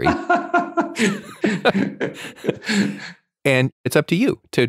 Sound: laughs

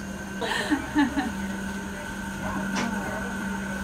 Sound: laughing

